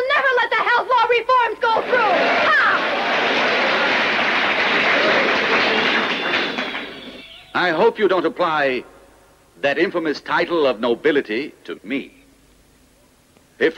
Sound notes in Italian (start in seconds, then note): 3.8 applausi